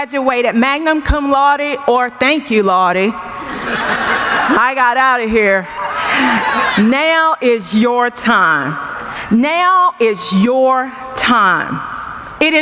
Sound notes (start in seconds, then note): 3.3 laughing